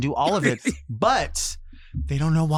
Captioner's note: laughs